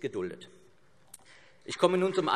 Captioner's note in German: Beifall CDU und BÜNDNIS 90/DIE GRÜNEN